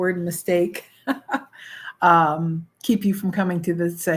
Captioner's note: chuckles